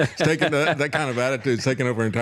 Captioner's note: both Laughing